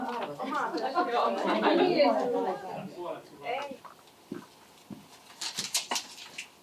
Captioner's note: puheensorinaa